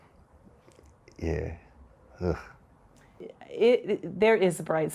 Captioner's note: sighs